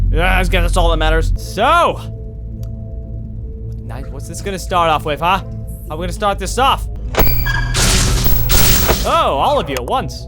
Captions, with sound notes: Eeh! I'm scared, that's all that matters. SO! What it's gonna start off with, huh? We gonna START THIS OFF! *squeaking movement* *shocking sounds play twice* OH! All of you at once!